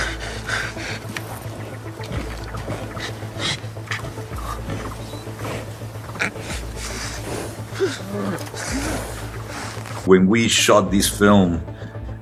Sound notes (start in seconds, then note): 0.1 person breathing; 4.7 bear breathing